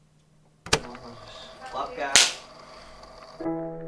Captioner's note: clap